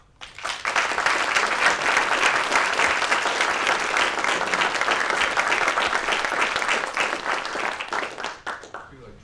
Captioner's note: applause